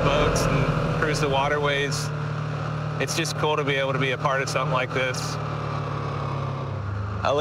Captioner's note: none